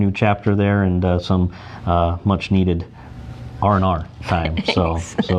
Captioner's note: laughs